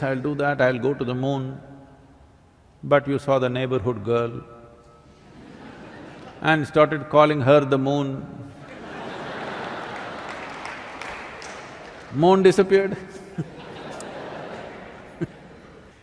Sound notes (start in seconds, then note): 5.6 laughter; 8.6 laughter/Applause; 12.8 laughter